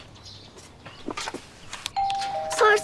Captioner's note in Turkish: Kapı zili çalıyor